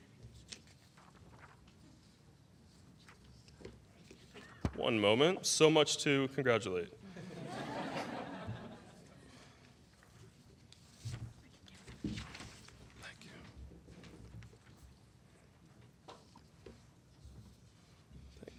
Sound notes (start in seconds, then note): 12.6 laughter